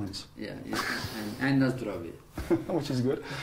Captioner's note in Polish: śmiech